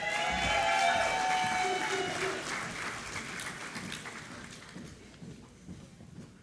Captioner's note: applause